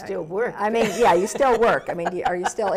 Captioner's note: laughs